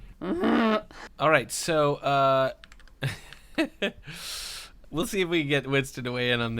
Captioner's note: angry throat noise; laughter